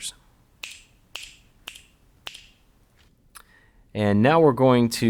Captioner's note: snapping